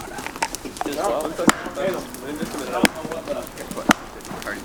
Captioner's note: clapping